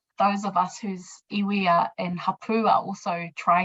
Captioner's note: speaking in foreign language